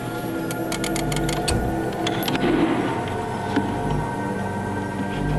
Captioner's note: machine whirring; lever clicking